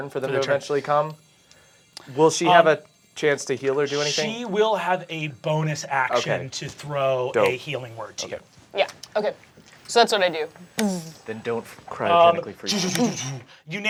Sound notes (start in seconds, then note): 10.8 clicking